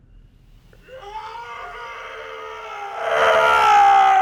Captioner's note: screaming